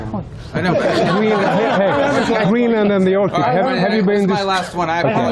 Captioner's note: laughter